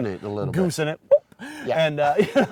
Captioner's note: men laughing